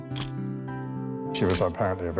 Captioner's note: camera shutter click